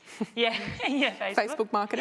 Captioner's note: crowd laughs